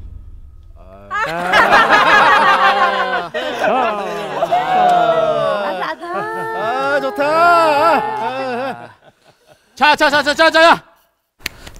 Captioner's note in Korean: 소란스런 술집